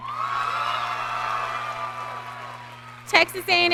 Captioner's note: audience cheering